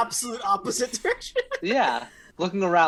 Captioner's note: laughs